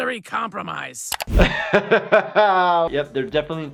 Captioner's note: doctor laughs